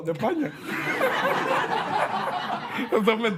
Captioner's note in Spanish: Risas